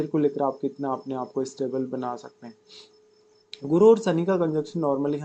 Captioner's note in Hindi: नाक से की जाने वाली आवाज़